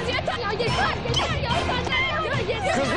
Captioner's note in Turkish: Bağırışmalar